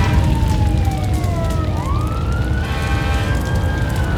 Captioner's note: siren wailing